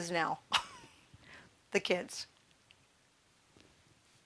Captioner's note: chuckling